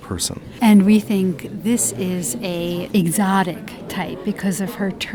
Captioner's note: voiceover